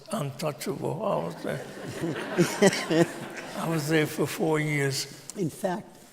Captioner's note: laughter